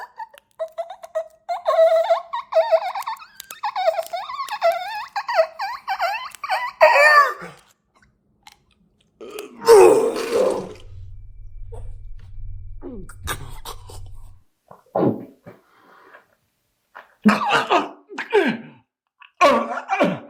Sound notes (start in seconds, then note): 9.0 Chuck retching; 13.5 Chuck gasping; 17.5 Greg retching